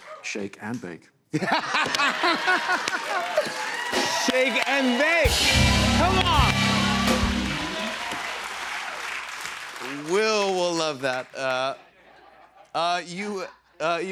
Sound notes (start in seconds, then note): 1.3 laughter